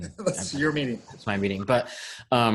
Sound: chuckling

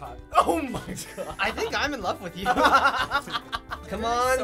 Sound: laughing

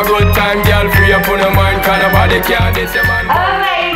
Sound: timer beeping

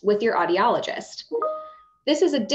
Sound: ping sound

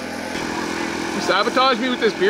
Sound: engine runs

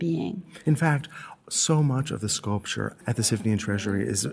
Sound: voiceover

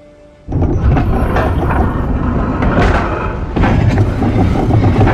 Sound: mechanism moving

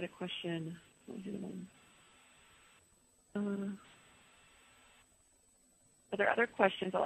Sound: pause

